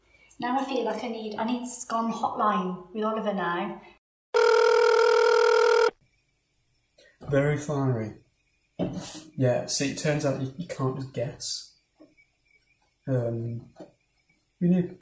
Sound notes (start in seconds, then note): 6.7 telephone dial tone